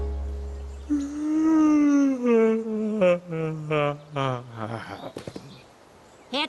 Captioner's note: yawn